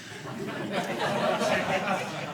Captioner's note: audience laughing